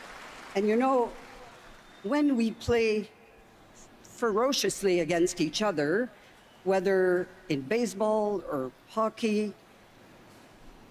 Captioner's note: cheers and Applause